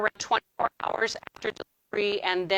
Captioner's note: audio distorting